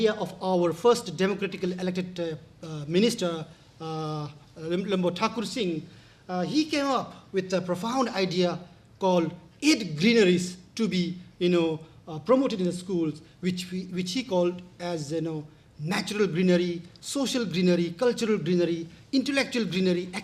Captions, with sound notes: of our first Democratically elected minister (speaking in foreign language) He came up with the profound idea called Ed Greeneries to be promoted in the schools which he called as Natural Greenery, Social Greenery, Cultural Greenery, Intellectual Greenery,